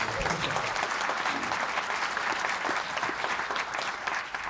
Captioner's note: applause